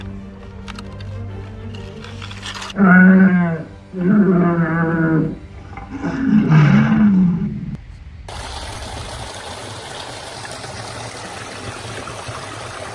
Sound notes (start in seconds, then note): 5.3 allosaurus groans